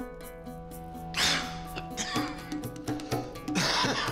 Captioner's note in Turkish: Öksürme sesi